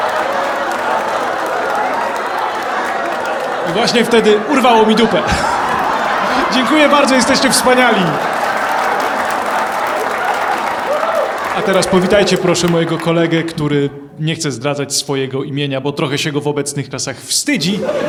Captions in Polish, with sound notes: I właśnie wtedy urwało mi dupę! *oklaski i śmiechy widowni* Dziękuję bardzo jesteście wspaniali! A teraz, powitajcie proszę mojego kolegę, który nie chce zdradzać swojego imienia, bo trochę się go w obecnych czasach wstydzi,